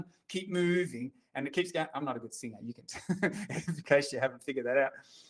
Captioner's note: chuckles